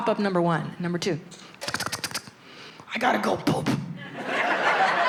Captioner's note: imitates footsteps